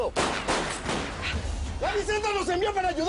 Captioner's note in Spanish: Disparos